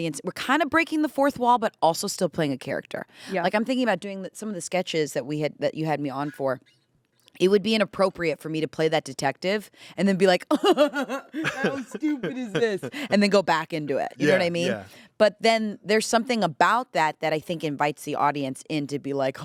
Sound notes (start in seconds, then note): 10.6 laughs